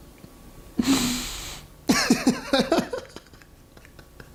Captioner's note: man laughs